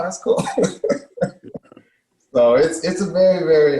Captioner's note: laughs